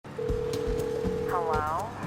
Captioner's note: phone rings